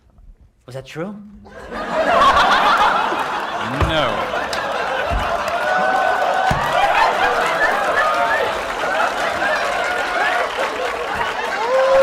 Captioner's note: laughter